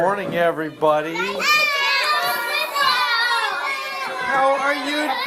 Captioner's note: classroom chatter